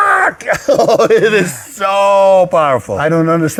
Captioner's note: laughs